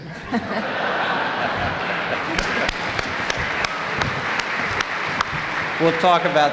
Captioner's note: applause